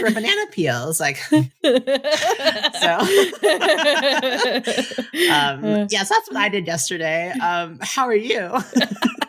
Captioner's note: laughter